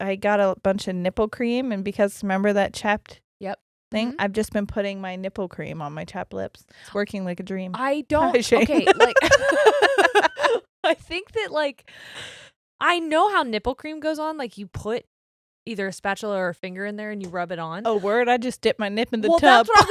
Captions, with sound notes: I got a bunch of nipple cream, and because remember that chapped thing? I've just been putting my nipple cream on my chapped lips. It's working like a dream. Hi Shane. (laughs loudly) - I think that, like, I know how nipple cream goes on. Like you put either a spatula or a finger in there, and you rub it on. - Oh word, I just dip my nip in the tub.